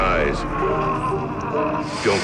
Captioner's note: man groans